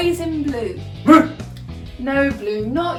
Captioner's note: barks quizzically